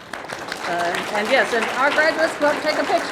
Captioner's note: audience clapping